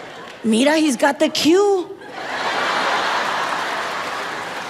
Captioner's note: audience laughs